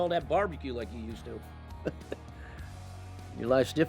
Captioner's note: chuckles